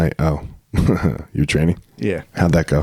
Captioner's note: laughing